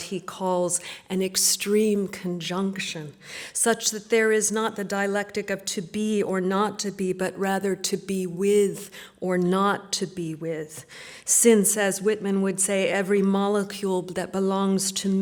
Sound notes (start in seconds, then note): none